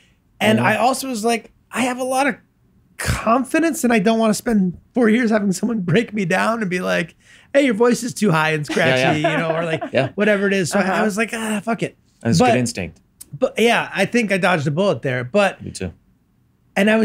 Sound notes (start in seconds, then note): 8.7 laughs